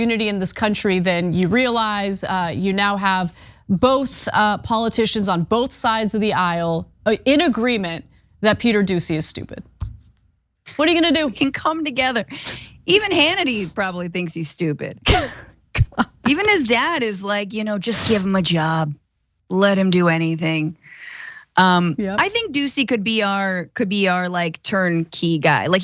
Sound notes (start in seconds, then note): 15.8 laugh